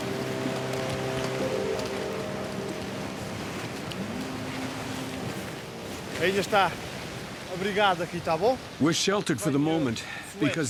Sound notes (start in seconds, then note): 6.0 speaking in foreign language